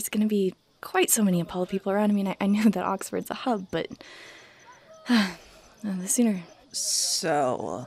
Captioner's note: sighs